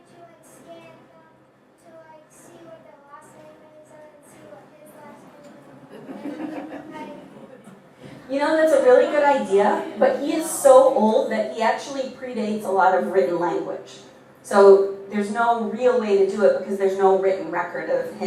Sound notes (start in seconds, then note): 5.6 audience laughing